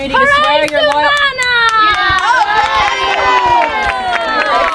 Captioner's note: audience cheering